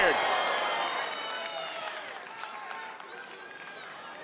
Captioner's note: audience cheering